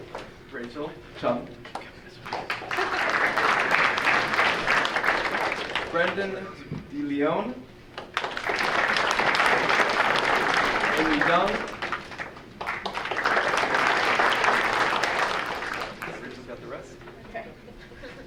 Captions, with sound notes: Rachel Chung. (audience applauding) Brendan DeLeon? (audience applauding) Amy Deng. (audience applauding) Rachel's got the rest.